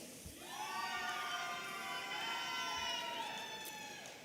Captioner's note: audience cheering